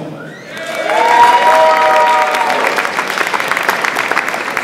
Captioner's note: audience applauds